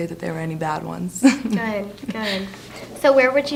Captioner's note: laughs